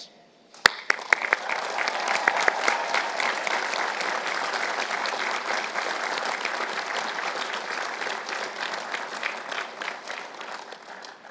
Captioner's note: applause